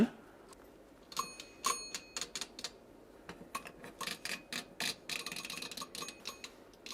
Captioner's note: slow tinkering and metallic twisting sounds